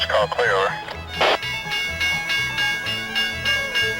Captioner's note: train bell